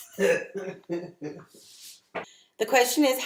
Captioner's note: laughing in background